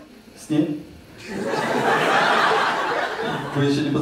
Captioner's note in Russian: зрительский смех